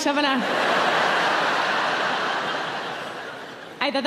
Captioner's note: audience laughing